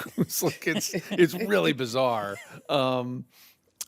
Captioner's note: chuckles